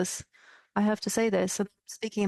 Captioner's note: speaking French